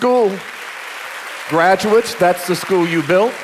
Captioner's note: audience applauding